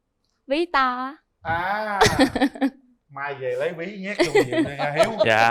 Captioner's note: laughter